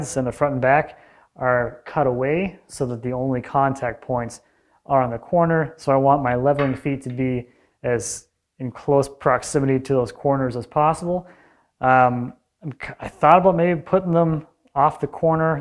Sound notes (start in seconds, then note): none